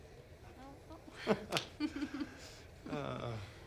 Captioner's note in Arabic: يضحك